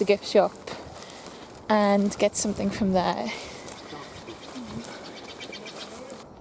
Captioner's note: birds twitter